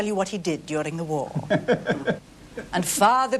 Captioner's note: laughs